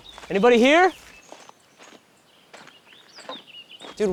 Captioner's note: birds chirping